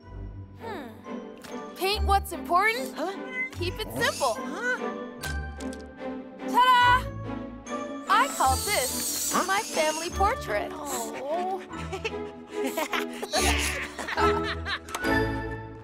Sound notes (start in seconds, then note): 0.1 light pensive music; 5.2 light pensive music continues; 10.8 Cozmo laughing; 13.2 all laughing in unison